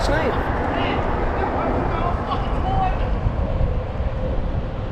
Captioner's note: lots of very angry spouting of profanities